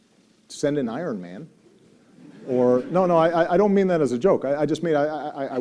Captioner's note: audience laughter